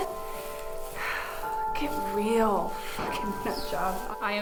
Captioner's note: sighs